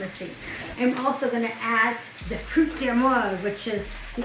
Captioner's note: speaking in foreign language